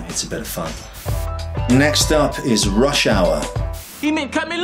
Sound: air whooshes; air whooshes

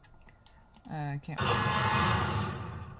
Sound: game sound

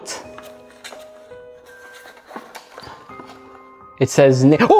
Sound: package rustles

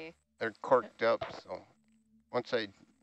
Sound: male Voice

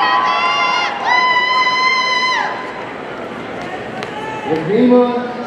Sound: audience cheering

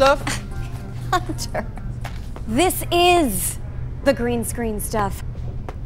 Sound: laughs

